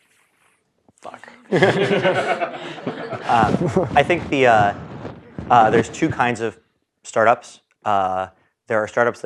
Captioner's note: laugh